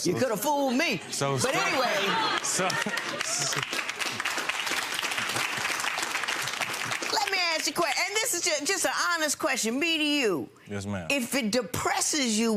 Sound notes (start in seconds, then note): 1.5 laughs; 3.5 crowd clapping; 3.5 crowd laughing